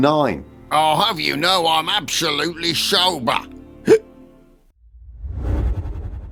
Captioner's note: drunkenly; hic